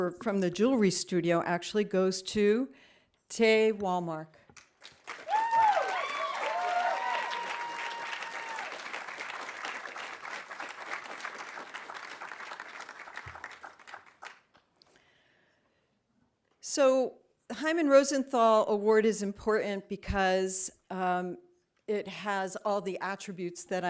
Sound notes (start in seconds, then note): 4.6 audience applauding; 5.0 audience cheering